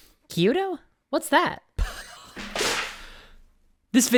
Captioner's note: poof